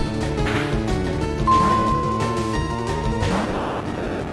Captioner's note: ding~